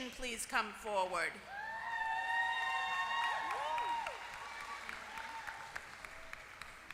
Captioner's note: applause